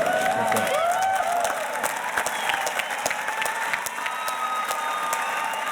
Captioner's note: audience cheers and applauds